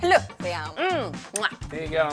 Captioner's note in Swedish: Kyssljud